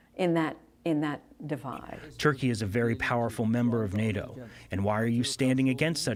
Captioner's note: through translator